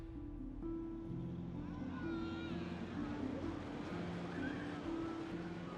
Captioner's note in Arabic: الناس يتحادثون